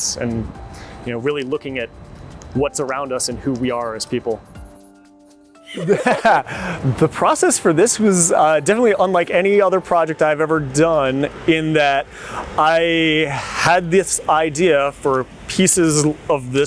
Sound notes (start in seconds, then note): 4.6 pen scribbling; 5.6 both laughing